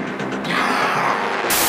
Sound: zombie scream

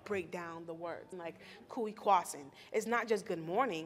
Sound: speaking in a foreign language

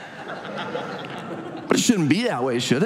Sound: audience laughs

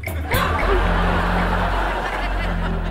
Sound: laughing

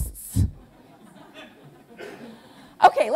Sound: laughter

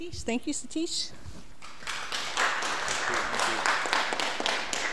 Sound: applause

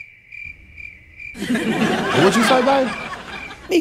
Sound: crickets chirping; laughter

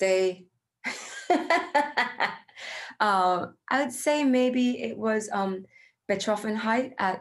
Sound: laughs

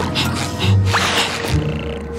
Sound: snoring

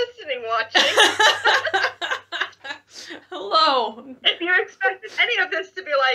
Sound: laughs

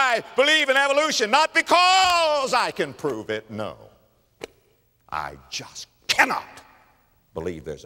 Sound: slap

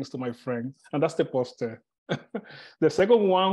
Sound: chuckles

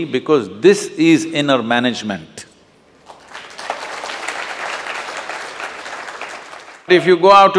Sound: applause

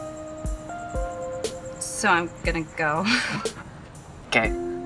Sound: poignant music; chuckles

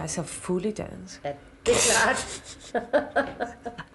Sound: laughter

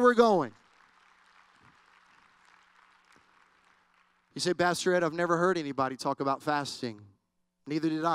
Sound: applause

